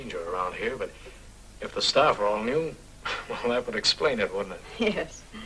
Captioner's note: sigh